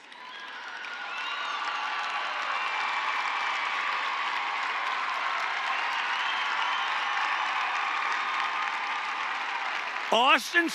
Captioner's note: applause